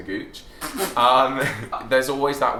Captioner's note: laughs